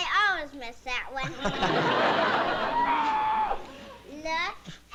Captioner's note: laughs